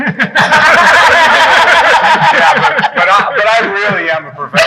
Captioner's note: people laughing